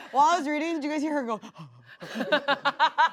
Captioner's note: pants; laughs